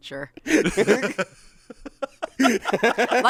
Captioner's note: laugh